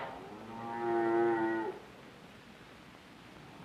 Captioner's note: cow mooing